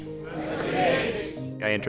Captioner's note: crowd Repeats " "